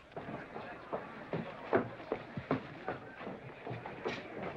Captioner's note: loud, brisk footsteps